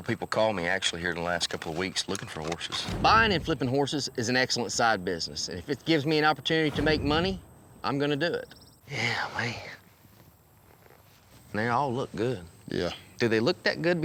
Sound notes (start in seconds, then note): none